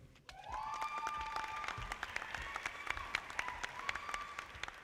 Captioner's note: audience applauding